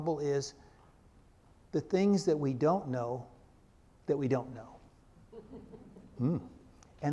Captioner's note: crowd laugh